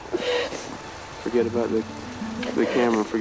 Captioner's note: crying